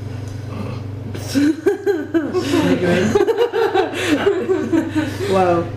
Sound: laughter

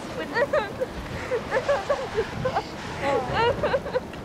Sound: sobbing

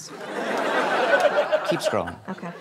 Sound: laughter

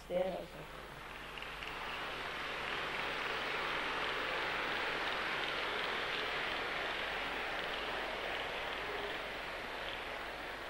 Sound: all clap

